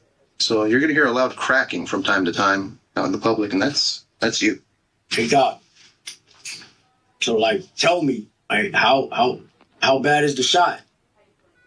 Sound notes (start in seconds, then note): 6.0 chair squeaking